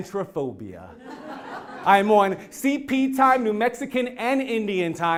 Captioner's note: laugh